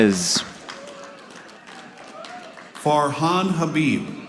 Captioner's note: audience applauding